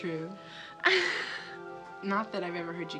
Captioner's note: Allison laughs